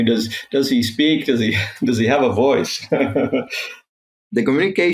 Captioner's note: chuckling